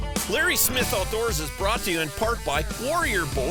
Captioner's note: voiceover